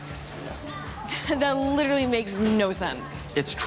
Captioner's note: scoffs